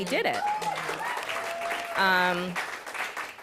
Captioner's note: applause